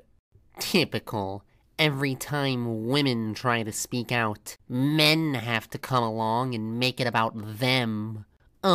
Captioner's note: mimicking an annoyed, judgmental voice